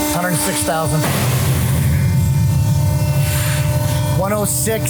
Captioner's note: metal thuds